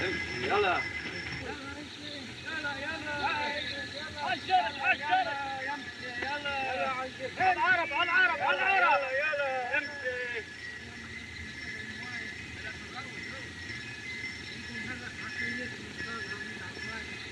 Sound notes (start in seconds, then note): 1.2 men Chattering In Native Language